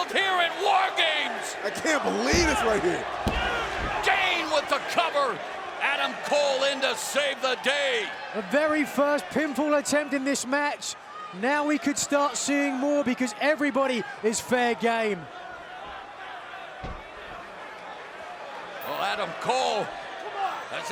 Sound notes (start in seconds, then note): 16.5 fans chattering